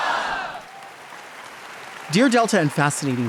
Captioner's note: audience applauding